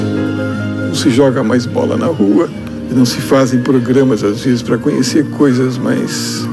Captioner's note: speaking foreign language